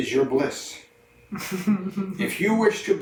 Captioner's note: chuckles